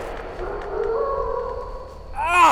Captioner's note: wolf barking